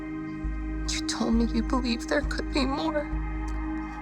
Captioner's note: voice breaking